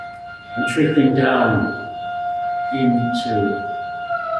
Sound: siren

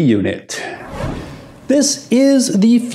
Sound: whooshing air

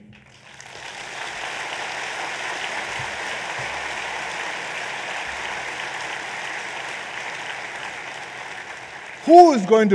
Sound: applause

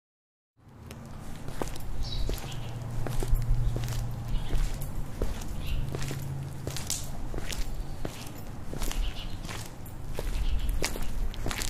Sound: footsteps

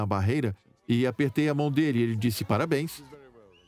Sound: voiceover

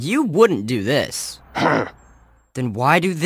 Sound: the officer grunts angrily

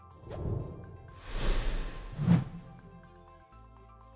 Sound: air whooshes

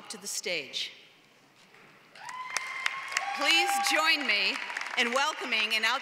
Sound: applause

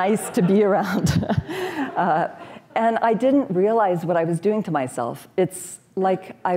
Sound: chuckles

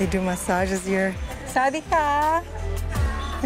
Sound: hello in Thai

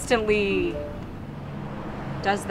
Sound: text tone

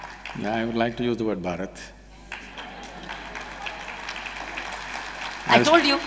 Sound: applause

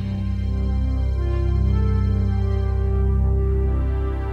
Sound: electronic tone

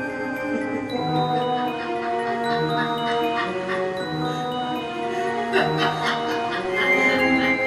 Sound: laughing

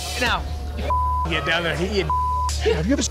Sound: beep

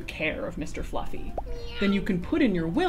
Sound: cat meowing

